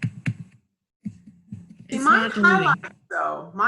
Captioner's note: thuds